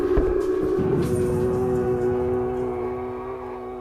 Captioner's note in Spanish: Gemido estruendoso